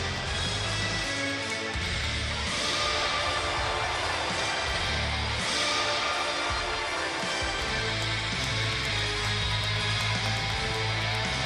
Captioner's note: crowd cheering